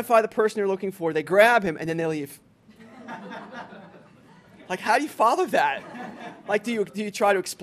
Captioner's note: laughter